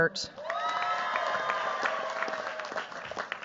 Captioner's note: cheers, applause